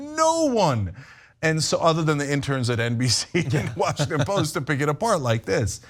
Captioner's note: laugh